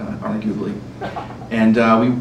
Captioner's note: laughter